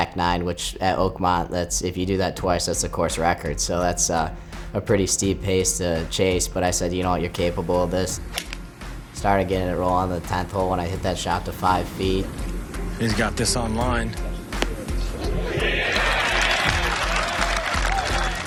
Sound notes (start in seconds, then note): 8.2 club whacking; 15.2 crowd cheering and applauding